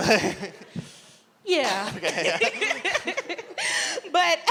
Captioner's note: laughs; laughs